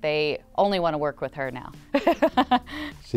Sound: laughing

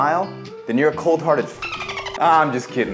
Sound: dolphin chirping

